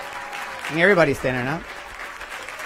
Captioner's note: applause